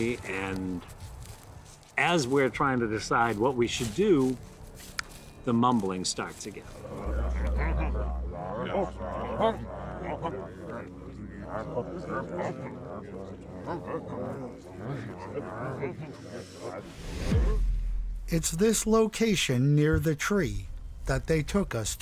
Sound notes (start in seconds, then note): 16.8 air whooshing